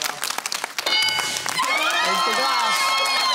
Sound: cheering and applause

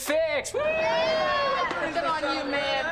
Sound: cheering

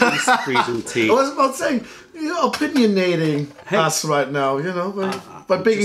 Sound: laughter

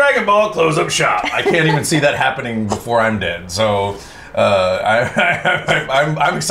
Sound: laughs

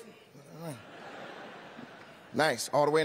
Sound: laughter

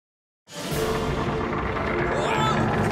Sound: creaking

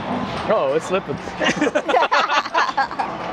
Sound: both laughing

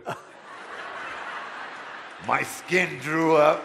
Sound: audience laughter

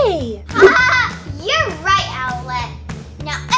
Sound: laughs

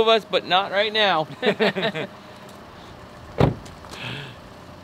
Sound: laughs

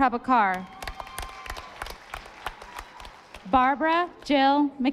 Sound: audience applauding

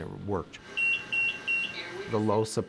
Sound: machine beeping

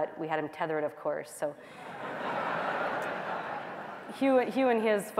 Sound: laughter

